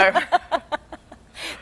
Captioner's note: both laugh